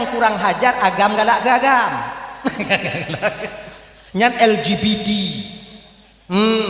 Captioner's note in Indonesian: tertawa